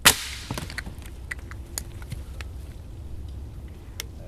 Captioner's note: branch cracks